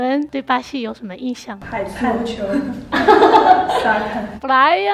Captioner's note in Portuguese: falando em chinês